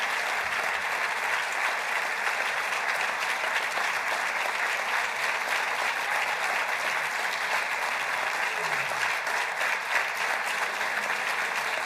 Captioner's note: applause